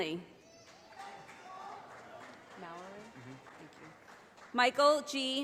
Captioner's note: audience applauding